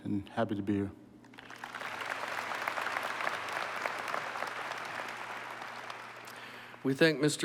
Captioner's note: applause